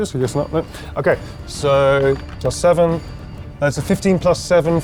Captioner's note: die rattles